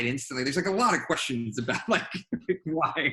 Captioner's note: laughs